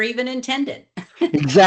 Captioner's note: laughs